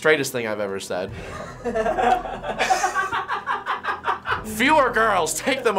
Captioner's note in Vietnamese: Finebros cười điên dại